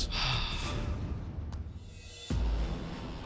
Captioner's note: sighs